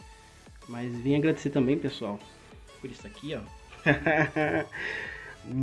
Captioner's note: laugh